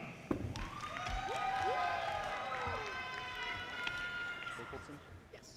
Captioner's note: audience cheers and applause